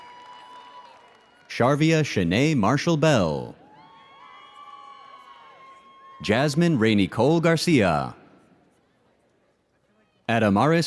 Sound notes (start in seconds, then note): 3.6 audience cheers